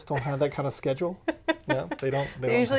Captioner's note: laughs